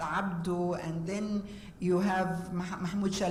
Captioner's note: foreign words